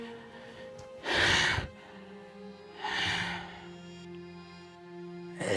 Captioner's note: panting